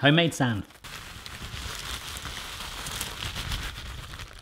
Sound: rustling

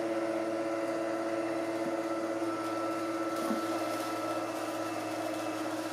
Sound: motor continues whirring

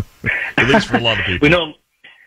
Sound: laughing

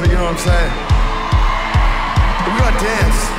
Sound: cheering

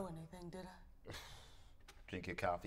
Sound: sighs

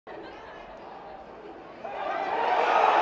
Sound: crowd noise; cheering

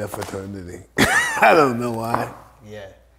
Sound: Mike laughs

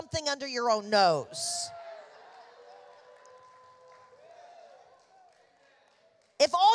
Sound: congregation laughing

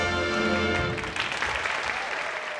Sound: applause

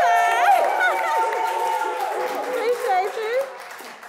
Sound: audience cheers; laughs

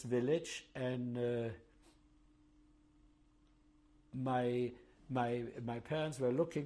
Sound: pauses for 3 seconds

